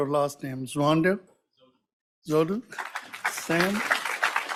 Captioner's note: audience applauds